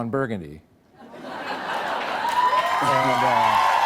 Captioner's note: cheers and applause